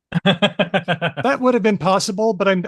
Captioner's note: laughs